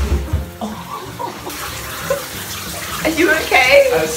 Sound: laughter

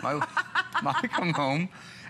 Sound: laughter

